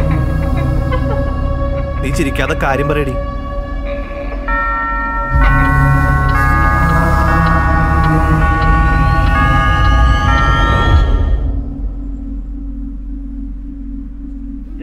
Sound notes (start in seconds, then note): 0.1 laughter; 4.4 clock chiming